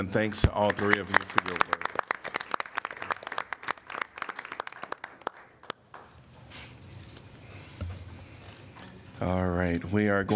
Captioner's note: applause